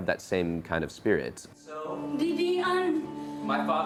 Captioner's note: speaks foreign language